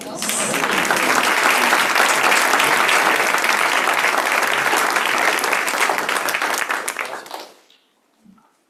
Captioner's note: applause